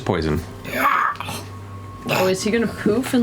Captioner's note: hacks